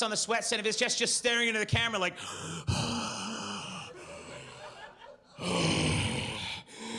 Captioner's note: heavy breathing